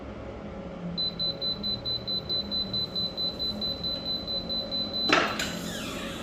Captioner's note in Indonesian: suara beep